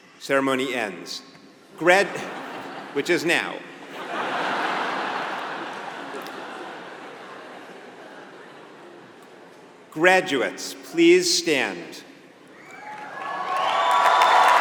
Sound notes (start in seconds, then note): 3.9 laugh; 12.7 applause